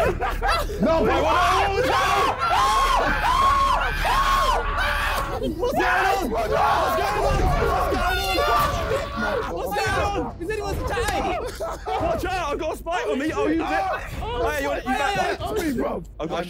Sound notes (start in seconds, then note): 0.9 laughing; 1.7 screaming